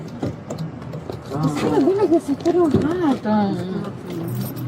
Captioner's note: speaking in a foreign language